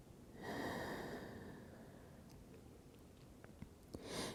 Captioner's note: breathing